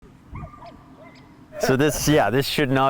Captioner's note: dog barking